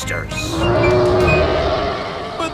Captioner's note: roaring